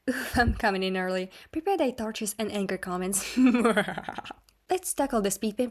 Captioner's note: evil laughter